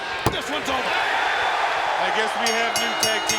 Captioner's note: audience cheering